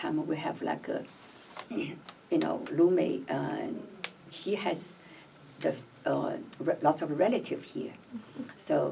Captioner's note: none